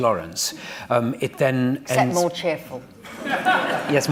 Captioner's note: laughter